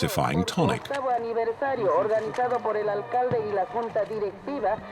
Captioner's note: foreign spoken audio